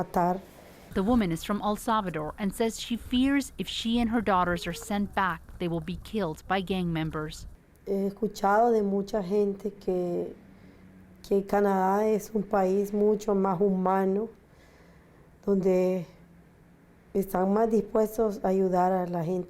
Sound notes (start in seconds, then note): 3.8 speaking foreign language